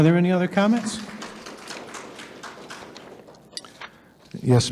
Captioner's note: attendees applauding